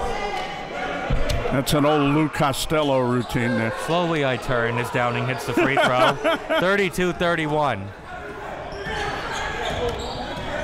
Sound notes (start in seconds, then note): 5.5 laughing